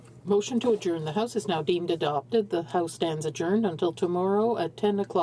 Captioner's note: speaking french